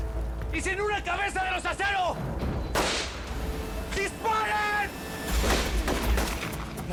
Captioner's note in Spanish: Disparo; Disparos